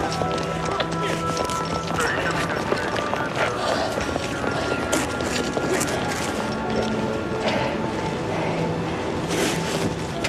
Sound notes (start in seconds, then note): 2.0 police radio chatter